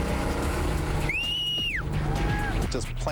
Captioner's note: whistling